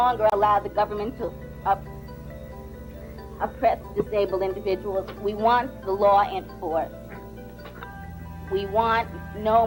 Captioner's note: choking up